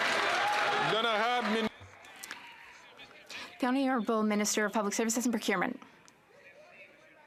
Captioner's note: some Applause